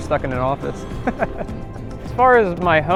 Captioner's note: laughs